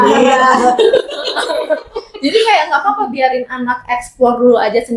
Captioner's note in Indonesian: tertawa